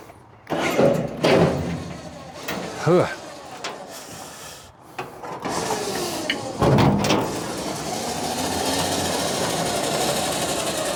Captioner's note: car Engine Revs